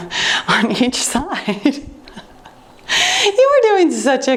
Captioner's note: laughing